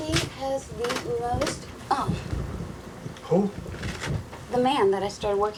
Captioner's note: grunts